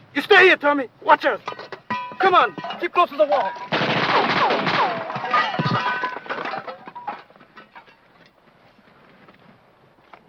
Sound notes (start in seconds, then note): 3.5 guns firing; 3.8 metal clanking